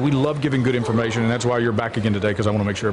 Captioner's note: laughter